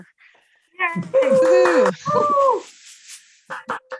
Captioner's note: cheers